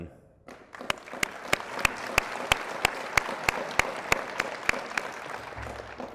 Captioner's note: applause